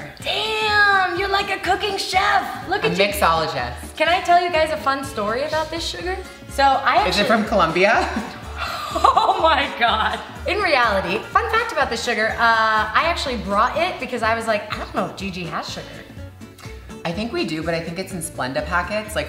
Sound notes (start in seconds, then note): 8.5 gasps